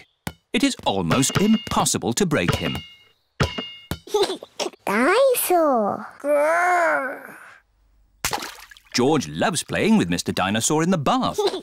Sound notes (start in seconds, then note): 4.1 giggles